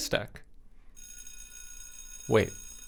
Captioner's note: bell chimes